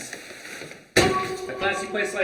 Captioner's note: bag thuds